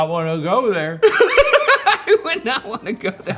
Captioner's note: laughs